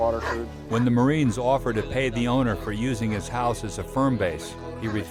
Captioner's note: voiceover